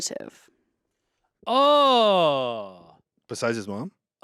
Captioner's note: Ian groans